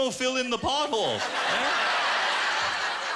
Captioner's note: laughter